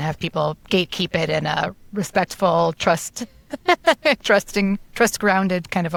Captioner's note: laughs